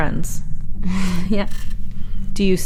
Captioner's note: chuckles